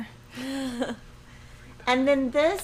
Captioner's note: chuckles